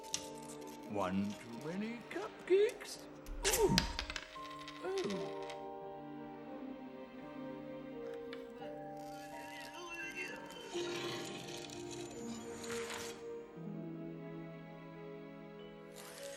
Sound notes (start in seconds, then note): 8.0 strains